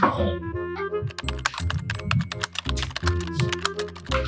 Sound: keyboard clicking sound

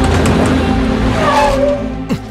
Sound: brakes squeak

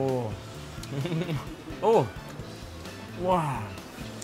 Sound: laughing

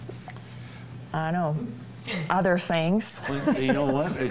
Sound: chuckles

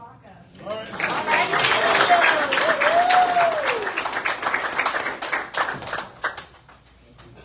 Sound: audience cheers and applauds

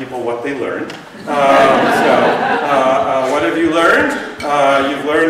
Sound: laughter

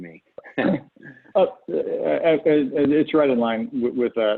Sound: laughter

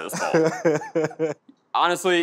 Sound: laughs

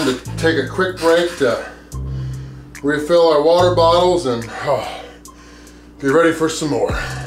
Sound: grunts

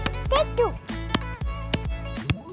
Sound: clapping; clapperboard snapping

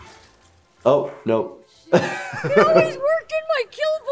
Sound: laughs

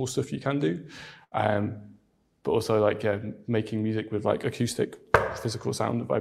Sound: knocks desk

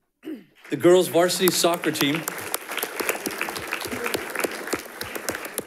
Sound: audience applauding

